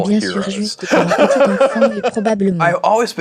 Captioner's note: laughing